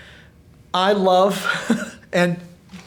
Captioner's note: laughing